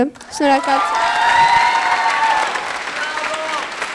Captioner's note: applause